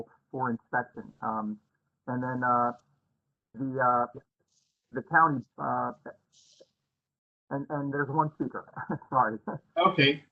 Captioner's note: laughter